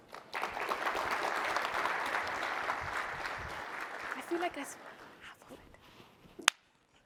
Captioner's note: applause